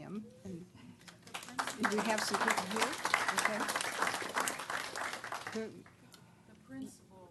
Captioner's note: applause